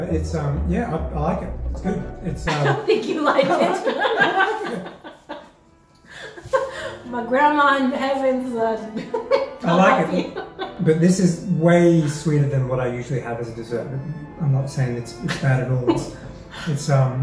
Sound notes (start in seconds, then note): 4.2 both laugh